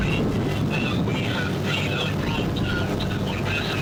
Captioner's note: radio